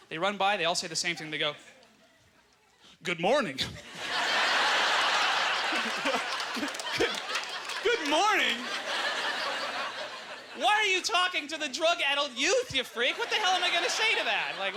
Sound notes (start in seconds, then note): 6.8 audience laughter; 8.0 laughs; 9.4 audience laughter